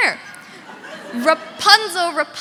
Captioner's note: audience laughing